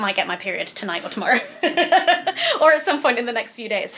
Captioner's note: laughs